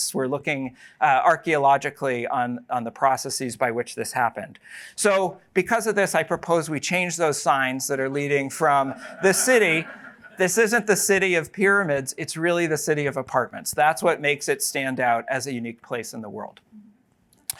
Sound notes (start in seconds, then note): 8.6 laughter